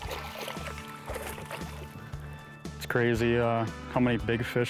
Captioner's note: water splashing